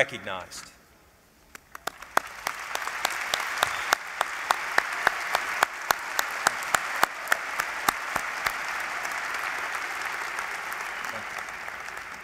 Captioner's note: applause